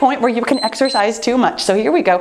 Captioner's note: timer beeps